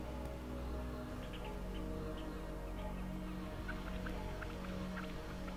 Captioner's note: birds chirping